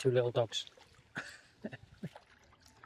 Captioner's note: laughs